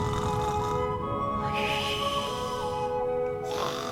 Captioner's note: snoring